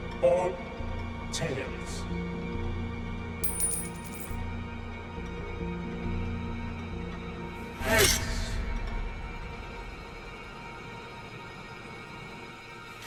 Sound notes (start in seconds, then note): 3.4 coin clinking; 10.2 ominous music